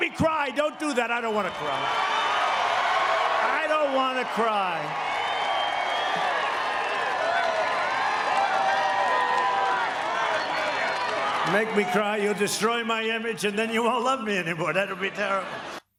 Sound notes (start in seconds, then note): 8.5 cheering